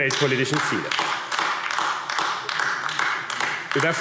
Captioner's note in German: Beifall AfD